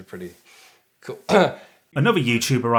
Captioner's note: clears throat